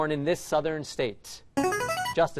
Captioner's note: chiming